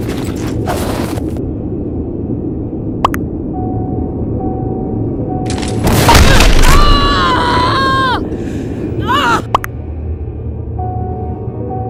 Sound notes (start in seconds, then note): 6.8 Pramisa Screaming in Pain; 8.9 painful yell